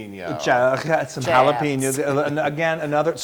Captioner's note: laugh